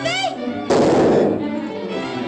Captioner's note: gunshots